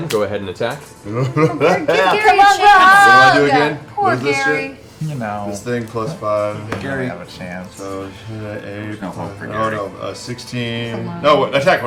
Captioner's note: laughs